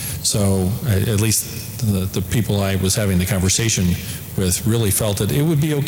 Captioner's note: none